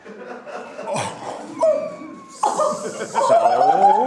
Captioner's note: group laughing